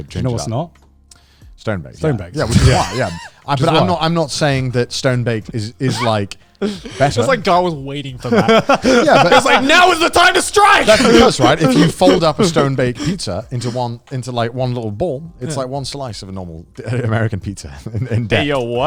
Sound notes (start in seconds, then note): 8.2 laughing